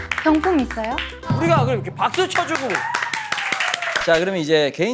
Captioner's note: Prize: super loud applause and cheering